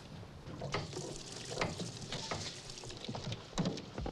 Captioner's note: water splashing